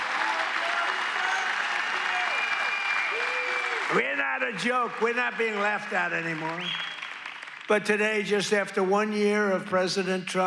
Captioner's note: applause